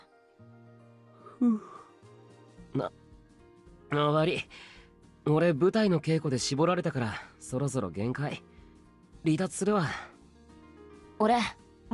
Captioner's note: yawns